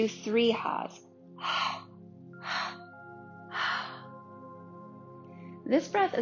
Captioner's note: exhaling deeply